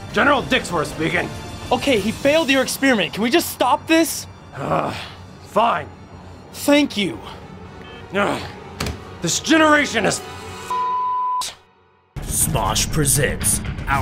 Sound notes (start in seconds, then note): 4.5 groans; 8.1 groans